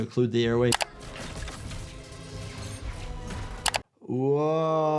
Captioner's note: tense music; electricity crackles